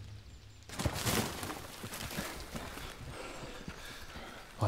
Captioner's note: John panting